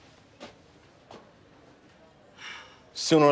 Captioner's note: sighs